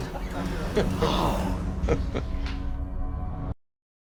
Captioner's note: chuckles